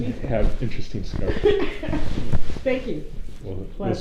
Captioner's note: laughs